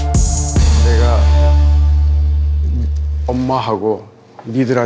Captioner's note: speaking Korean